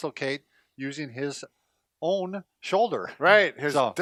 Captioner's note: laughs